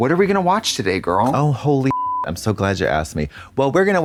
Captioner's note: beep